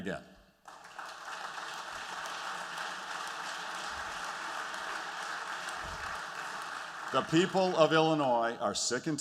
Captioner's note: applause